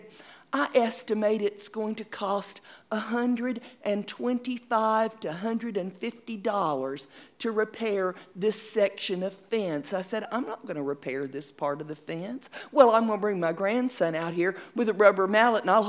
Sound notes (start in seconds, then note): none